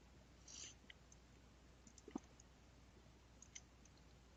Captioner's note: mouse clicking